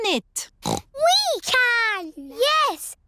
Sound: snorts

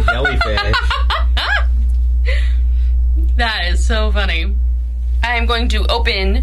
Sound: laughs

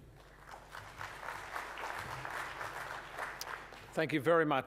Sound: applause

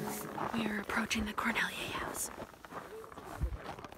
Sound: whispers

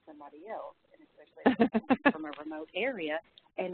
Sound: laughs

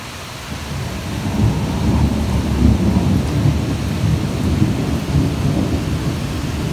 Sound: thunder, rain

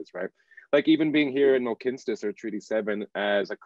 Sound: speaking Indigenous language

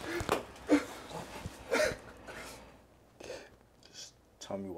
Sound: Mosi sobbing

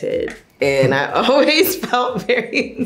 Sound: laughs

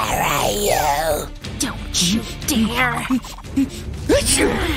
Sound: breathing heavily

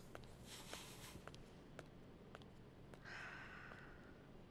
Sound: sighs deeply

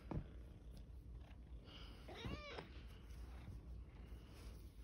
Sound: meow muffled by blanket

